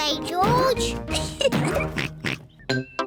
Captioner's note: oinks; laughs